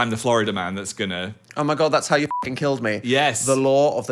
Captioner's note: beep